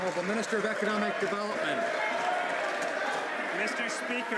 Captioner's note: some Applause